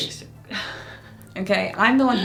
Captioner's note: chuckles